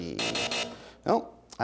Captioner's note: buzzer sounds